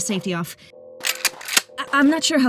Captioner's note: gun clicks